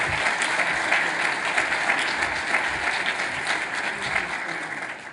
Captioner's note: applauding